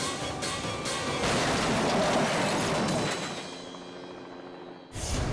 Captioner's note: cars crashing